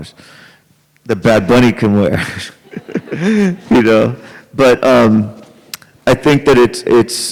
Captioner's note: laughs